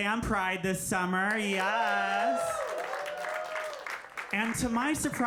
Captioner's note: audience cheering